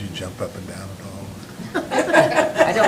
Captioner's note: laughter